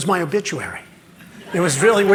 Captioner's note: laughter